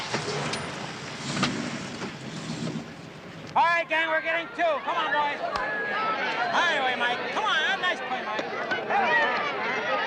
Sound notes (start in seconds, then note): 0.0 car starts